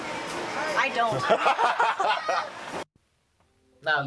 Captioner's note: laughs